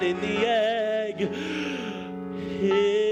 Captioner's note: gasps for air